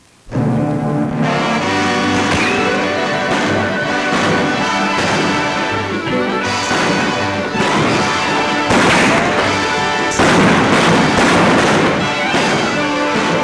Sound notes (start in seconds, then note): 0.7 dramatic music; 0.7 guns bang